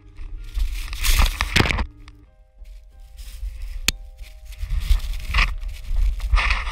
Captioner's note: camera thuds and scratches